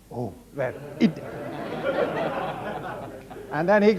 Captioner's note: audience laughs